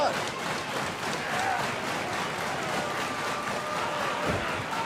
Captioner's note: cheers & applause